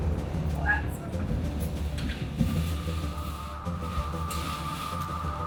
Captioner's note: dramatic instrumental music; talking and commotion